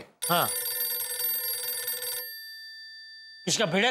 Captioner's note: phone ringing